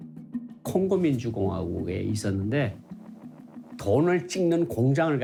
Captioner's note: speaking Korean